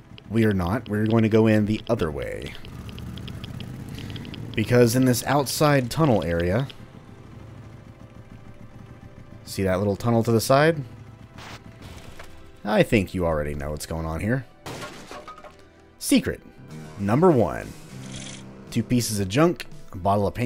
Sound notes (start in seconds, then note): 14.6 smash; 16.2 riff plays